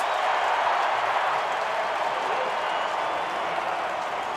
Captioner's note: cheering